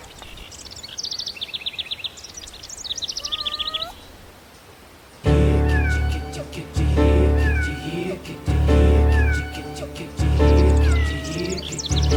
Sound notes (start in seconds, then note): 5.2 upbeat music; 5.9 cat meowing